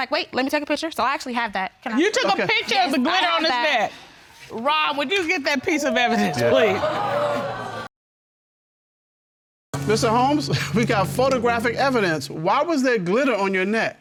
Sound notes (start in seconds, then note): 6.0 audience exclaiming; 10.3 chuckles